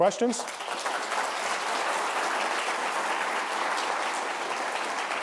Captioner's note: audience applauding